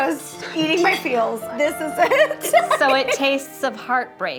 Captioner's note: laughing